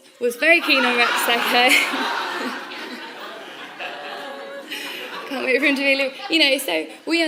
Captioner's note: laughter